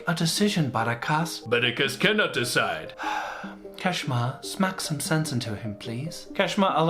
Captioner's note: sighs